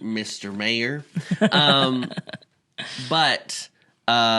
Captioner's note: chuckles